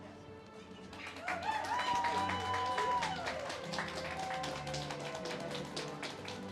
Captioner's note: audience cheers and claps